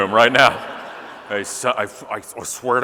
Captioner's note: audience laughing